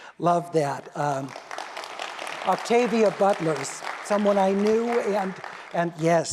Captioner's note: applause